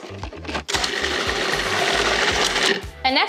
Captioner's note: whirring